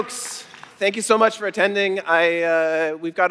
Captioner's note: applause